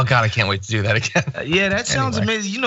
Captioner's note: laugh